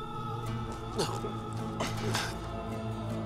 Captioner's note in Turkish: Nefes sesi